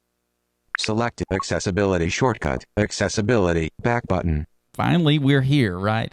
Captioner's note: electronic Voice